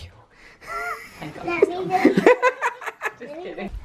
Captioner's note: he laughs